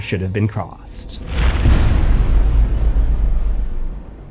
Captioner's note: impact